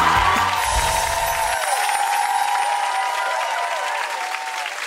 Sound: chiming bells and clapping

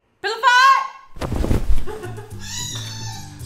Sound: pillow hits; giggles; baby squeals

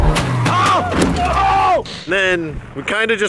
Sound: car skidding; man screaming

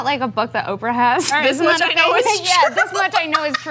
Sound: laughs

